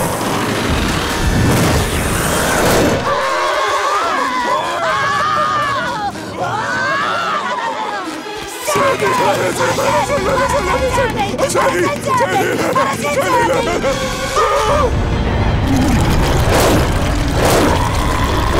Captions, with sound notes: [screaming] Sandy! Let us in, let us in, let us in! Let us in, Sandy! Let us in, Sandy! [screaming]